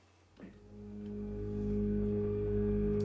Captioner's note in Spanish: none